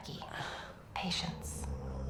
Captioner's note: bucky sighs